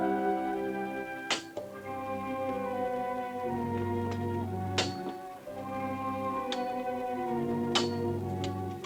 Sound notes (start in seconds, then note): 1.4 metal clanging; 5.5 grim music continues